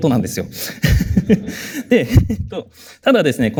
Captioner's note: chuckles